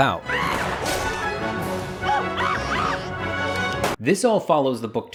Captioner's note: man screaming